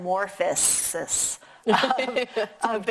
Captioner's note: both laughing